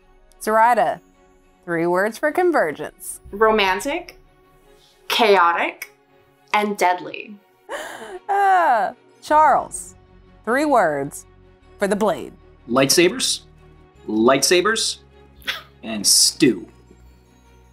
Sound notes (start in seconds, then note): 7.8 laughs; 15.4 both laugh